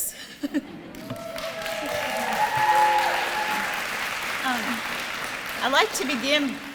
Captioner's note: applause & cheering